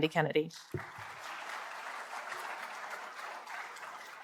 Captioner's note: applause